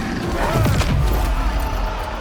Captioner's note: growling